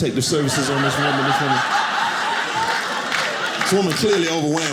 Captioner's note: audience laughing